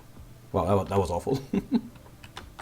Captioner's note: hehehm